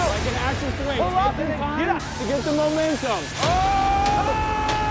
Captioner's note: men cheering